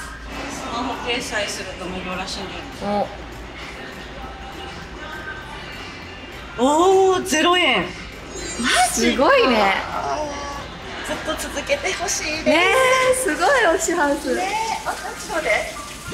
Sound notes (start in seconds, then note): 13.1 Washing machine noise